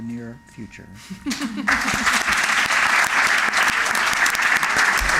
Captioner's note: applause